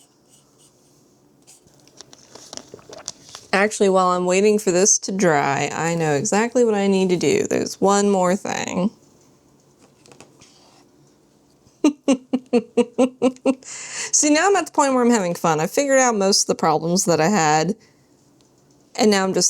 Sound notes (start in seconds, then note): 11.8 laughs